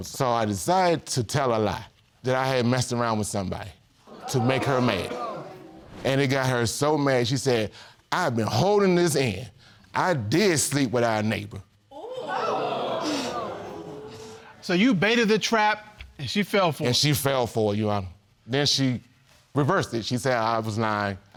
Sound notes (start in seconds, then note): 11.9 audience exclaims